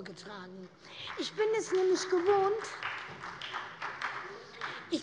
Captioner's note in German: Beifall bei der SPD